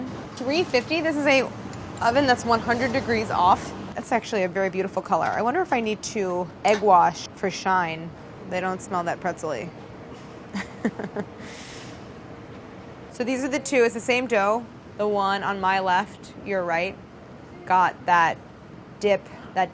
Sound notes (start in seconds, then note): 10.5 laughs